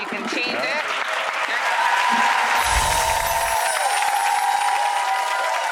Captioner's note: audience cheering and clapping